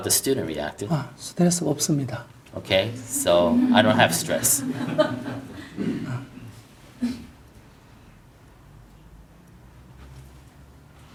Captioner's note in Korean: 청중 웃음